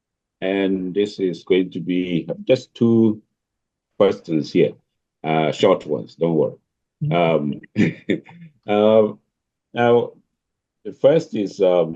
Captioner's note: laughs